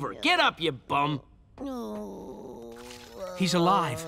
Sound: groaning

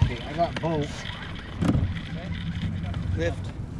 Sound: reel cranking

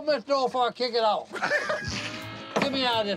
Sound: laughter

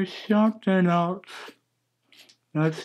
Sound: razor scratching

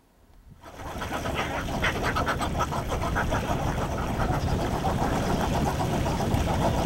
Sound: quacking

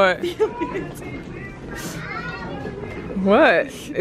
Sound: giggles

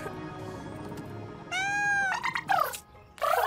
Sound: meowing; trilling

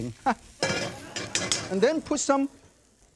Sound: wok clinking; audience laughs

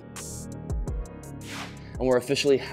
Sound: whooshing sound

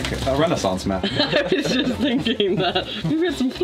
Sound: laughs

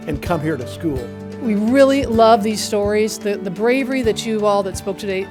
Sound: none

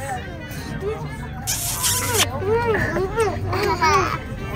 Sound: lips smooching

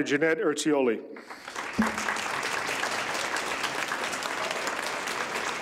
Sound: audience applauds

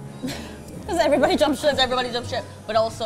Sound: chuckles

